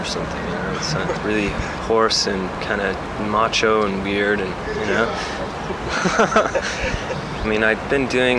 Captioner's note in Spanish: risas